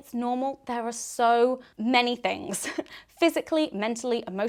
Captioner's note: laughs